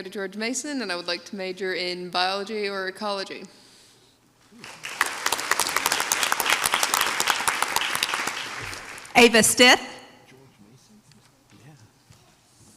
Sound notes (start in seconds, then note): 4.5 audience applauds